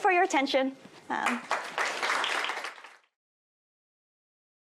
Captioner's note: applause